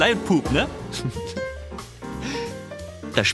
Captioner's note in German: Kichern